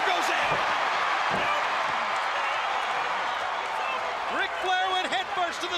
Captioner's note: crowd cheering